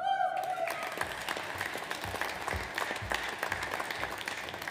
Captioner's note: audience applauds